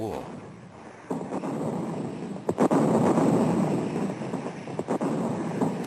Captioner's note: heavy artillery booming